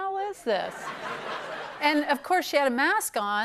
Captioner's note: laughter